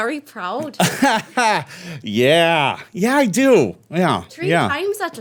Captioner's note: laughing